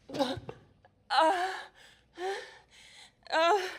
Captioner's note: groaning